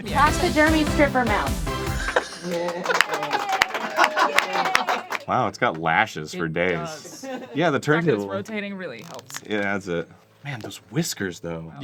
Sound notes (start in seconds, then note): 2.0 laughing; 2.4 crew clapping